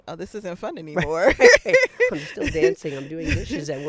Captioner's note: laughing